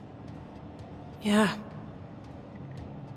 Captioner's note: her voice cracking